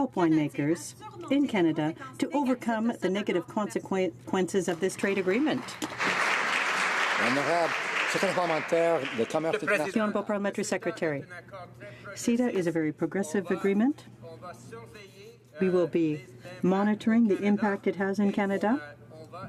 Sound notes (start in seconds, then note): 8.8 some Applause